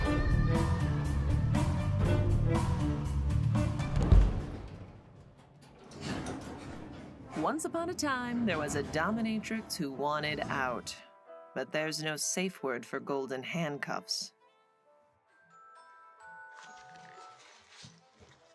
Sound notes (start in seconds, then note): 3.9 Ava thuds; 6.2 elevator door roars; 15.9 phone ringtone plays